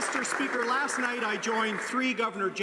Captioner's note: some Applause